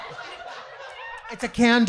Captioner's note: audience laughing